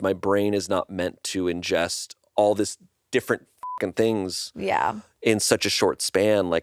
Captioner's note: beep